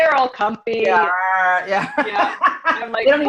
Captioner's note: laughs